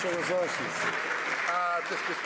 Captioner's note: some Applause